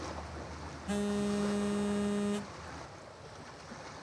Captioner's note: phone buzzes